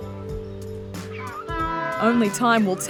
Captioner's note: penguin calls